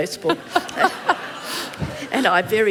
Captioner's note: laughter